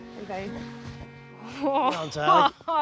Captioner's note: exclaims